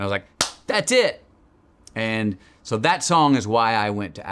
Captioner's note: Matthew claps